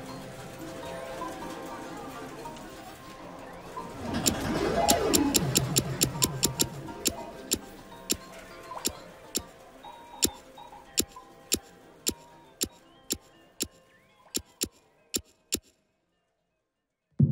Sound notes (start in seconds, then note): 4.9 trigger clicks rapidly, game chimes; 8.8 trigger clicks rapidly